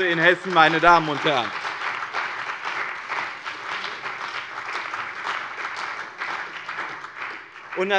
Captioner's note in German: Beifall bei dem BÜNDNIS 90/DIE GRÜNEN und der CDU